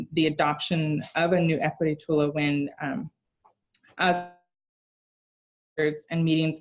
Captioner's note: sound drops